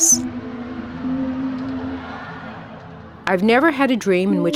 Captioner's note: gentle music; crowd cheering